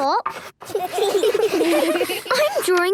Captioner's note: all giggling